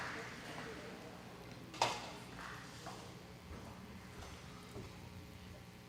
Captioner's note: audience murmuring